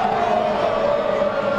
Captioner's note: cheering